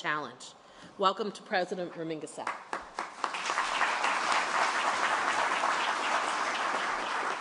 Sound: applause

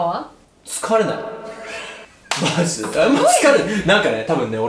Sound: claps

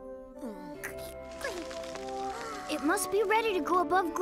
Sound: cicada grunts

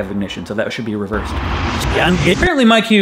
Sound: reverse explosion noise

